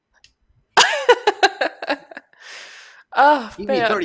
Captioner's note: laughs